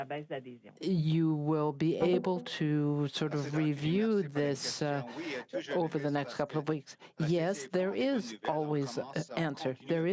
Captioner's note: speaking French